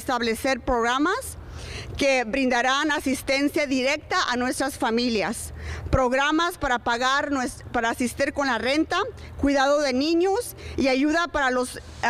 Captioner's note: remarks in spanish; speaking spanish